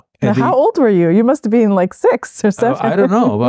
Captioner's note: chuckling